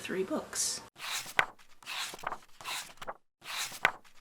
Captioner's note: pages turning